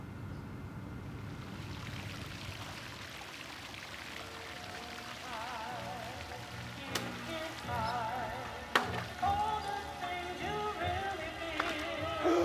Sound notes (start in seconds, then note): 1.3 water splashing; 5.3 radio playing